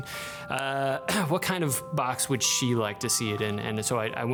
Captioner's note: coughs